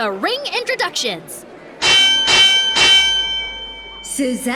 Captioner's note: bell rings